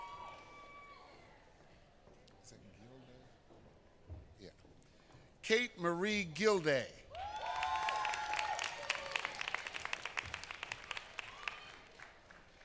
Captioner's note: applause